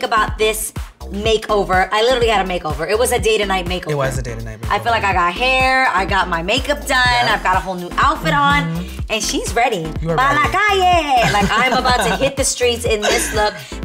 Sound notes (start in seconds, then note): 10.9 laughs; 11.3 speaking in Spanish